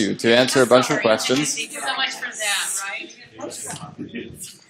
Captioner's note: chatter